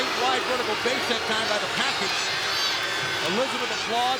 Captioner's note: crowd booing